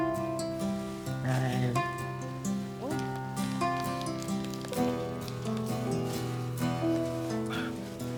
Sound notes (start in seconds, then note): 2.7 paper crinkling